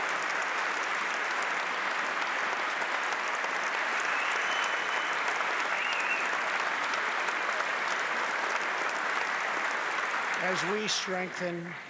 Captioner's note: applause